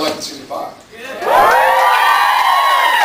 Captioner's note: cheers, applauds